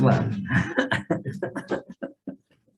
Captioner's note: man laughing